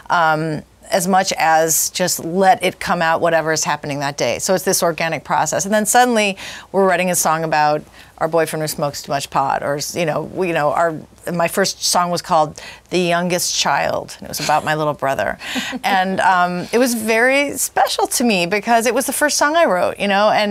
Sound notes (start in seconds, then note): 15.4 chuckles